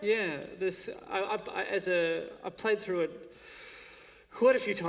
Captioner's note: none